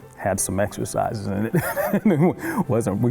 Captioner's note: laughs